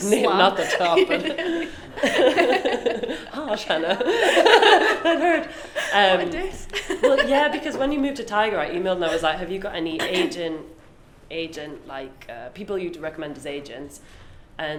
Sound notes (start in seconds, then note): 2.6 both laugh; 5.0 both laugh; 6.7 laughing